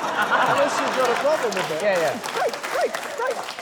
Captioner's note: laughter, applause